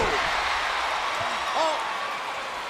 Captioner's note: crowd cheers